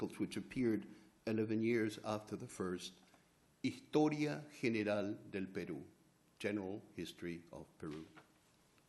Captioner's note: spanish